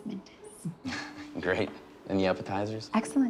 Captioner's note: laughs